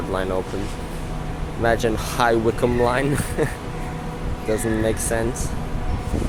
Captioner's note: laughs